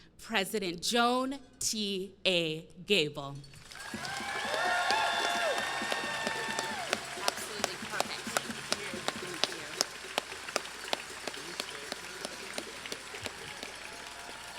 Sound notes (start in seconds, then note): 3.8 crowd cheering and clapping; 10.7 crowd cheering and clapping